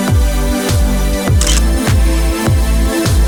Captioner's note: photo Click